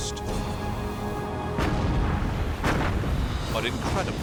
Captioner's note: explosions